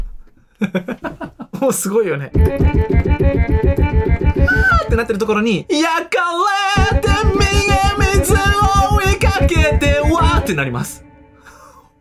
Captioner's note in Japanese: 笑い